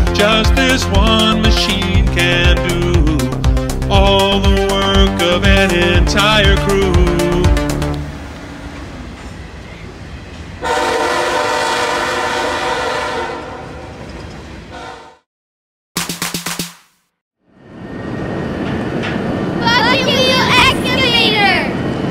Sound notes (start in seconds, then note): 8.8 truck and train sounds; 15.3 clapping; 17.8 truck sounds